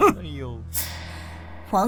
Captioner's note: scoffs